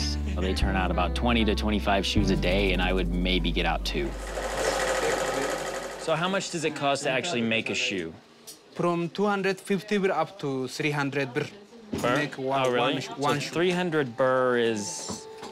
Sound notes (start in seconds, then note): 4.1 sewing machine whirring